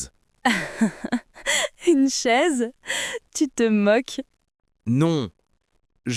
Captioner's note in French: rire